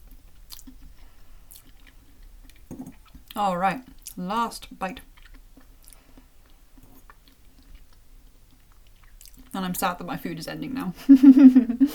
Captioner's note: chuckle